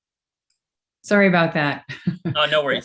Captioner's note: laughs